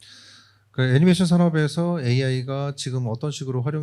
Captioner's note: speaking korean